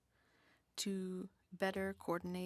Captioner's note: speaking French